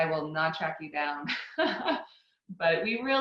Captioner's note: laughs